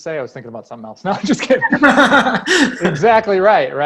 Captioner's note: laughs